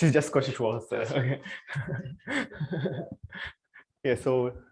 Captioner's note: laughter